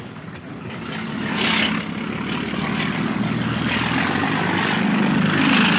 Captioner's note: speedboat engine roaring